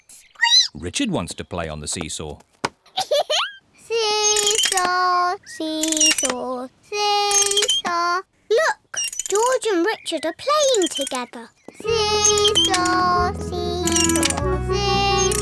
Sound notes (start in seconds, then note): 0.1 squeaks; 2.9 giggles